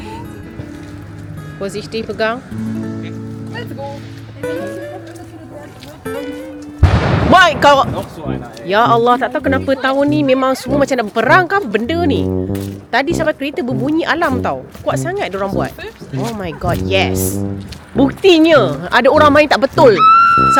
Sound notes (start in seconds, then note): 6.8 firework bang; 8.0 speaking German